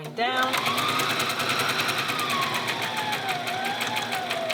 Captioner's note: sewing machine whirs